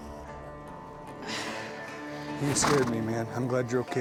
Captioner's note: coy grunting